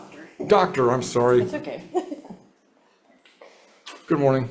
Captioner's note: chuckles